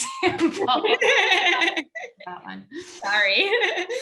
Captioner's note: laughs loudly